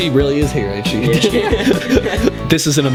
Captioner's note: while laughing